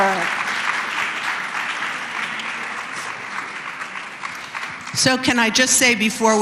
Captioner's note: applause